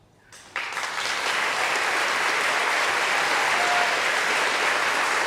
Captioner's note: applause and cheering